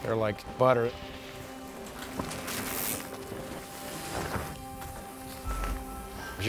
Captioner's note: bikes riding past